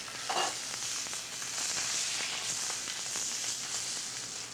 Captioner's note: oil crackling